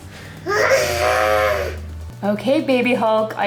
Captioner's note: growling